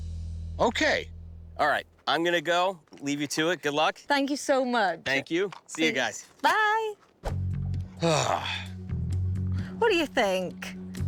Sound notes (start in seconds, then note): 7.9 sighs